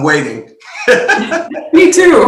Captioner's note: laughs